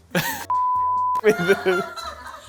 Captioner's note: beeping; group laughing